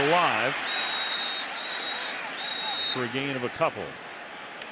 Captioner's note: whistle blows